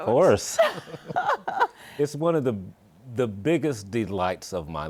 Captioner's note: laughs